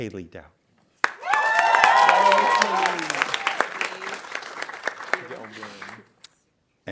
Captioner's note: audience applauding